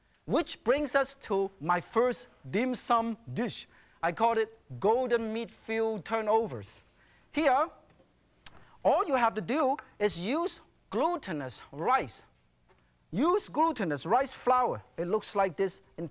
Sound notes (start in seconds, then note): none